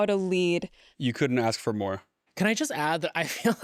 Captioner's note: laughs